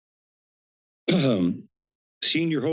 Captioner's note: clears throat